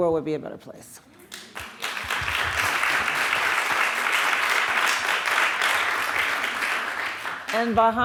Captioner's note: applause